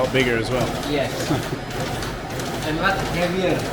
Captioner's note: laughing